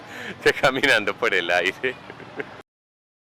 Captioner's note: laughter